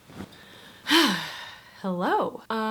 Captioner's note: sighing